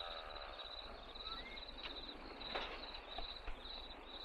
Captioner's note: crickets chirping